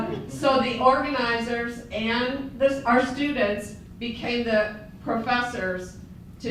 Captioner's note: laughter